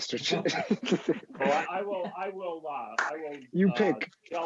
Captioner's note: both laughing